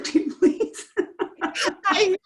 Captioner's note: laughs